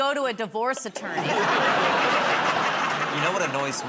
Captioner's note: laughter